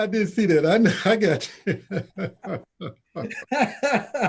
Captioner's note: laughter